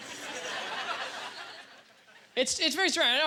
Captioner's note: audience laughter